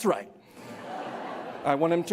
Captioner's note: laughter